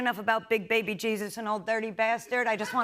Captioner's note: laughter